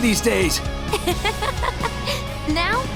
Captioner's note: laughs